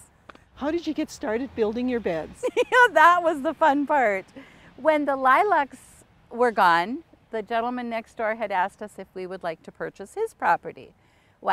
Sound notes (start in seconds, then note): 3.0 laughs